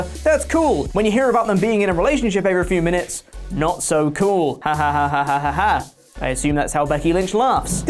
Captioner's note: laughs